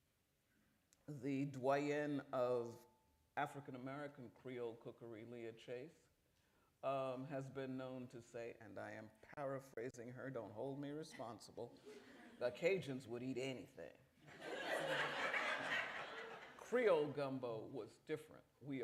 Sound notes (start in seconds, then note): 14.2 laughter